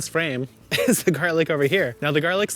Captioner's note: laughing